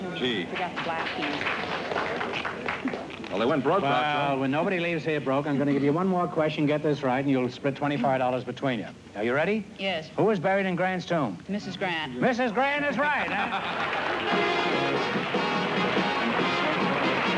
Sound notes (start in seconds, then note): 13.2 laughter